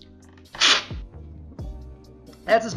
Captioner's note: slurping